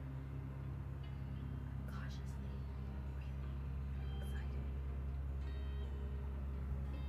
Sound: whispers

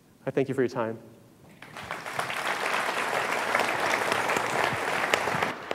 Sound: audience applauding

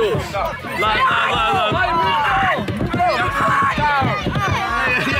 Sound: students shouting

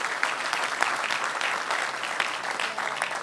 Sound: applause

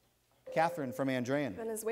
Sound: ding

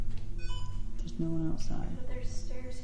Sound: phone beeps

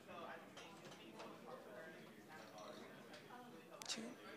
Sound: group chattering

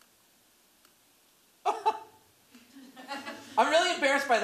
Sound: laughs

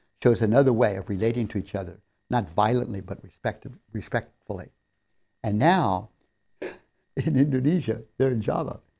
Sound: laughs

